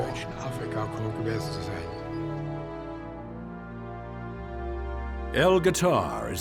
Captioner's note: speaking in foreign language